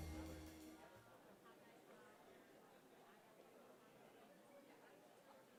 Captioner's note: audience chattering